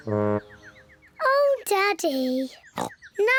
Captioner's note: birds chirping; oinks